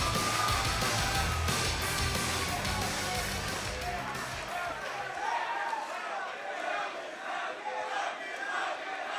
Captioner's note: crowd chatter